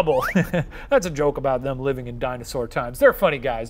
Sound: laughs

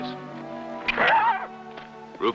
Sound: neigh

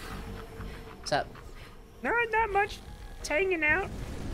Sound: goofy voice

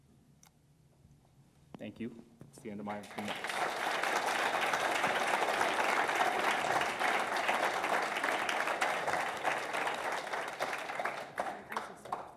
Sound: audience clapping

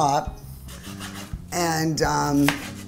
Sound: cutting

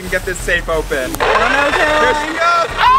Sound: jackhammer noises; laughs

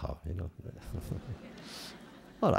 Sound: laughter

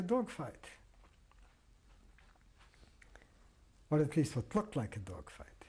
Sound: pauses for 3 seconds

